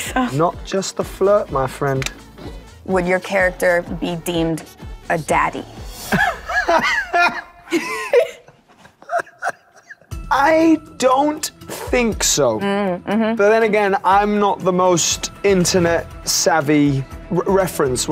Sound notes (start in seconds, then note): 6.0 laughing